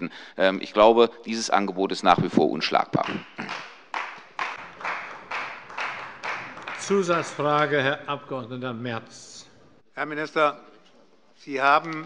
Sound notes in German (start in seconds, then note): 2.9 Beifall bei Abgeordneten der CDU